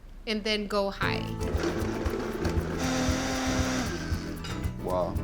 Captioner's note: whirring